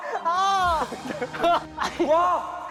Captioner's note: ah